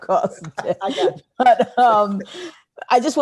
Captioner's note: laughing